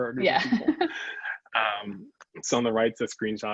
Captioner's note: both laugh